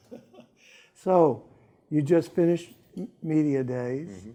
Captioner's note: laughs